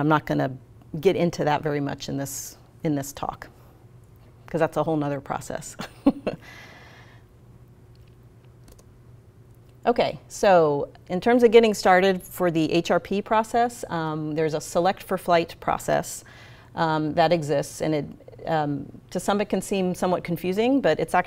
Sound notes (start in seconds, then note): 5.8 laughs